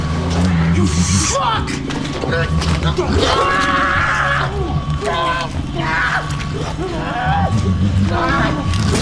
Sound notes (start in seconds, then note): 3.0 screams